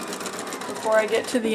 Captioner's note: sewing machine sounds